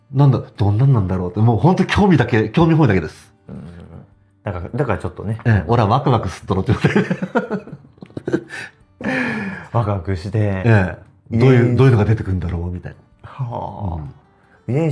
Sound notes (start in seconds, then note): 6.7 laughs